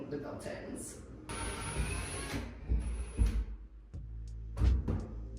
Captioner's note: drill whirring